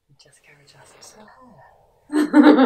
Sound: murmuring; laughs

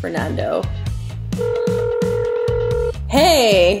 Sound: phone ringing

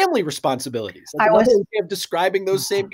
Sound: overlapping chattering

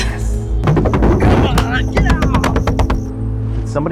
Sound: banging

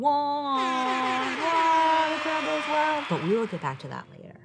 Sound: air horn blasting

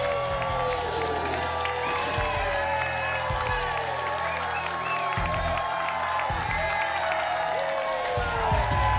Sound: applause and cheering cont

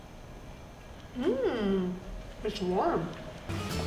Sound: moans

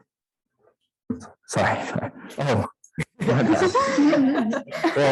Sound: audience laughing

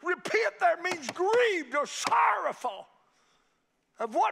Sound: fist banging

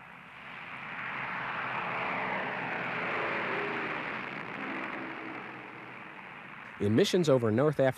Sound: whooshing of airplanes taking off

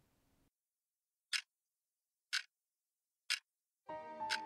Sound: clock ticking

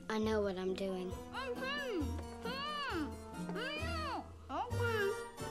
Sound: muffled protests from Pugsley

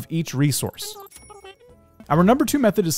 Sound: cash register dings

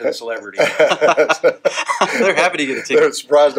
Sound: laughing

